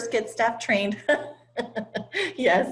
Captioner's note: laugh